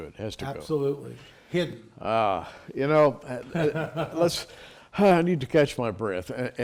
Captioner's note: laughter